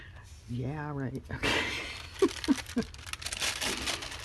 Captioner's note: laughs